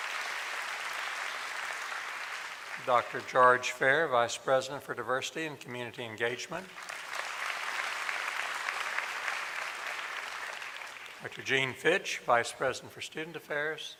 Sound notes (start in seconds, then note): 8.1 applause